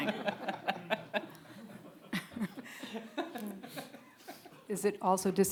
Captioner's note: audience laughing